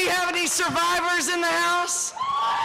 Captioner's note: cheering